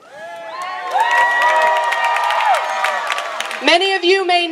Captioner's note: cheering